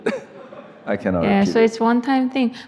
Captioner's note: audience laughs